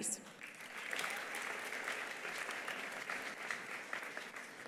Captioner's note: attendees applauding